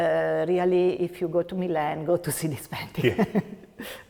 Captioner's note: laughs